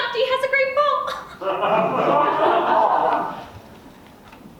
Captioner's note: audience laughs